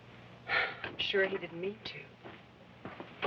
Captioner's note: sighs